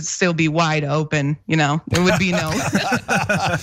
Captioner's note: laugh